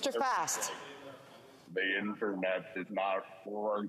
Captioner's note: speaking FRENCH